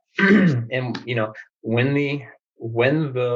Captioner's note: clears throat